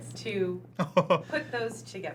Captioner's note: chuckle